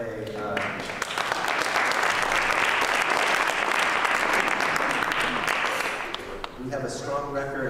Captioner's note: applause